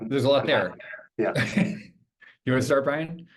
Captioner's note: chuckles